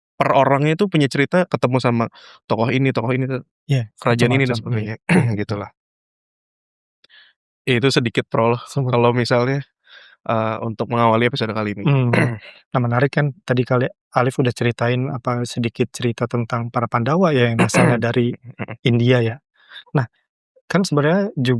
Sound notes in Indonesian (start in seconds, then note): 4.3 berdehem; 11.8 berdehem